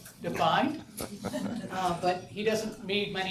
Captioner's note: audience members chuckle